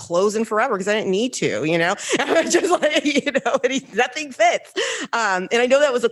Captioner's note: laughs